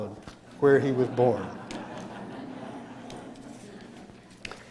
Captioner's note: laughter